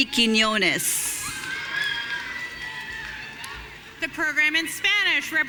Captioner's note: audience cheering